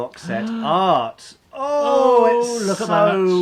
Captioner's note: gasping